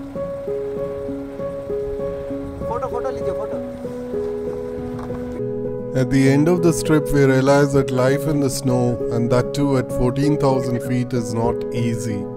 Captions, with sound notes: (gentle music) (speaking in foreign language) At the end of the trip, we realized that life in the snow and that too at 14,000 feet is not easy.